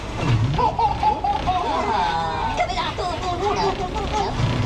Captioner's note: Minions chattering